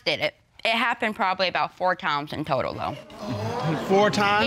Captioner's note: audience exclaims